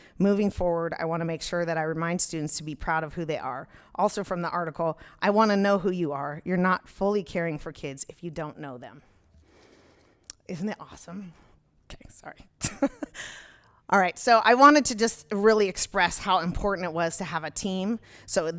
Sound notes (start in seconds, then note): 13.2 laughs